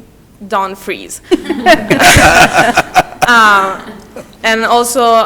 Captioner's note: everyone laughs